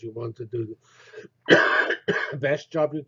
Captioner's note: cough